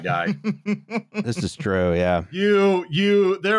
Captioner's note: laughs